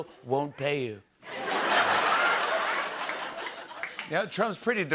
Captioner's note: laughter